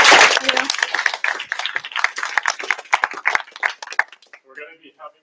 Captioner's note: applause